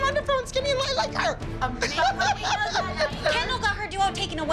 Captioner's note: laughs